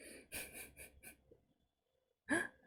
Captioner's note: laughs